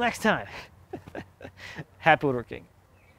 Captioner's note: laughing